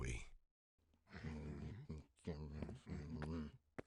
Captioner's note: grumbling